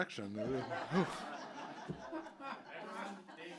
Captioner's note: audience laughing